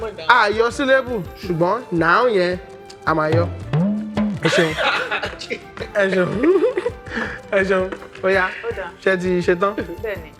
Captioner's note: laughs